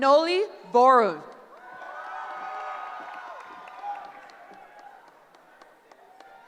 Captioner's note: cheering